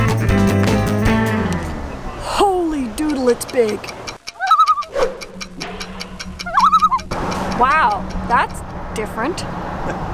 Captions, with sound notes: Holy Doodle it's big! [loon call] [loon call] Wow, that's different.